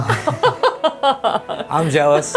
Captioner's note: laughing